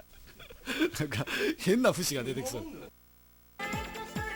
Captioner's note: laughing